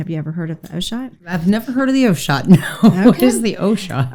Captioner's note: laughs